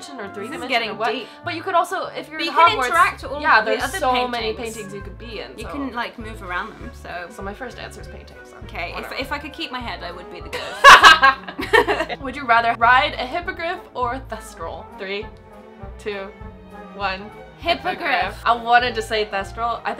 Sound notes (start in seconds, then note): 10.5 laughing